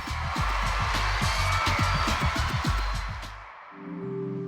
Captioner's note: applause